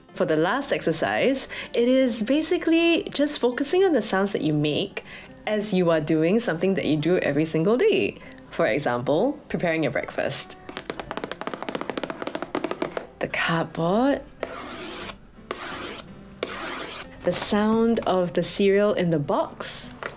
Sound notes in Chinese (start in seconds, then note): 10.7 轻敲玉米片盒子的声音; 16.4 刮擦纸盒